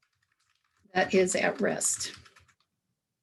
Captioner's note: sound of keyboard typing